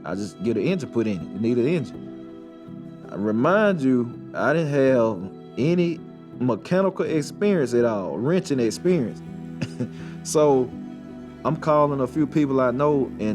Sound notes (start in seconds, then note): 9.6 chuckles